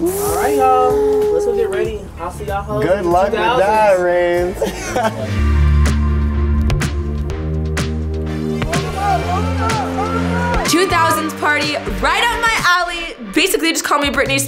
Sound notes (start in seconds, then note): 4.4 laughing; 6.4 upbeat pop music